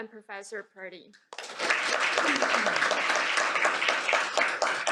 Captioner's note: applause